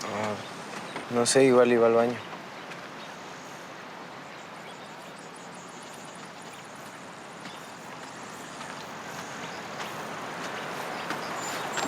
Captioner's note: speaking in Spanish